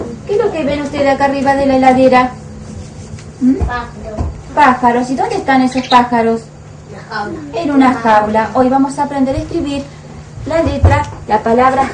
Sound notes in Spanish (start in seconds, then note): 2.9 pájaros